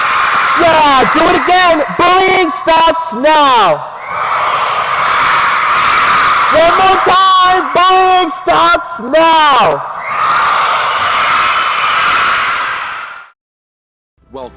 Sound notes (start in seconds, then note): 0.0 crowd Repeats; 11.0 crowd Repeats